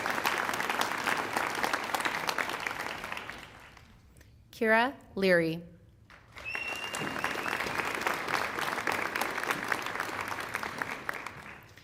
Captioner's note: applause